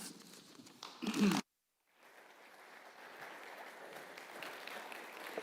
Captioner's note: audience claps